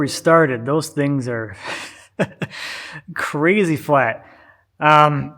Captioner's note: chuckles